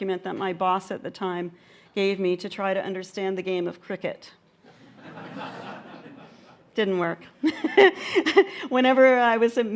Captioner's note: laughter